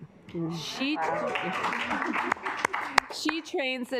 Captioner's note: assembly clapping